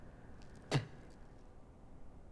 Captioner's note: spits